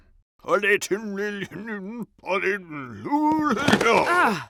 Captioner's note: Pharaoh mumbles